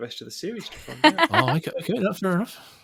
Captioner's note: laughs